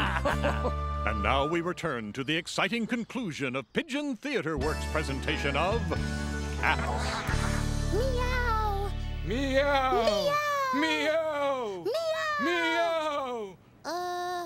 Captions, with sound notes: And now we return to the exciting conclusion of Pigeon Theater Work's presentation of... Cats. ( both meowing loudly ) Uh...